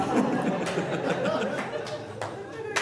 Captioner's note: audience laughing